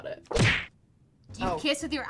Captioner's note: punch sound